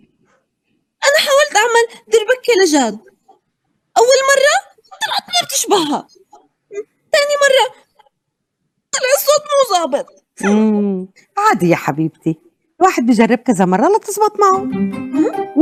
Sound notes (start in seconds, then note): 0.7 speaking Arabic